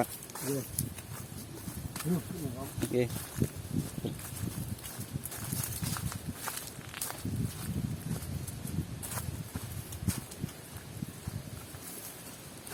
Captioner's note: sound of footsteps on the grass